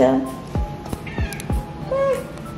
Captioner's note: Poki meows